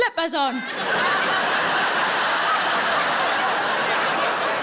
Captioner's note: audience laughing